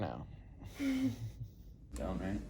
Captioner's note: laughs